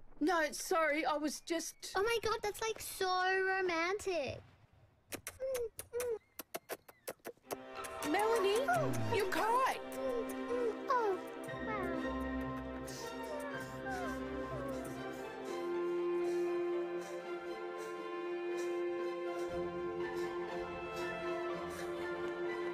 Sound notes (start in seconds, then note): 5.0 smooching sounds